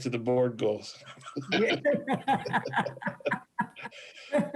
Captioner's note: laughs